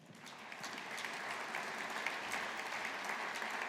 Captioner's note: audience applauding